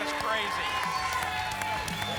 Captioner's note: applause and cheering cont